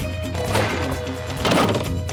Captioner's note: catapult thumps; roof bangs